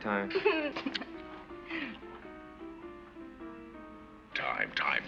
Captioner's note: laughs